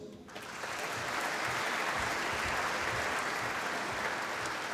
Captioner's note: applause